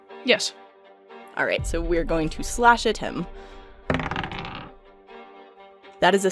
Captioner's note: dice thunks